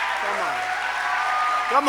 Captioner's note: applause